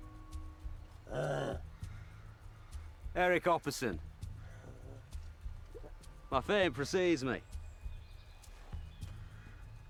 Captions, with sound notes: (man grunts) Eric Copperson. My fame precedes me.